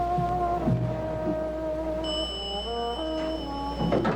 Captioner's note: bell Dings; door Slides Open